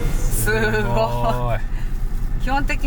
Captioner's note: laughs